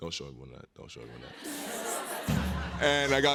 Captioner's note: laughter